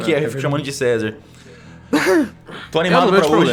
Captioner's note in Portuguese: riso